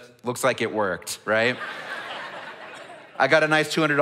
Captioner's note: audience laughs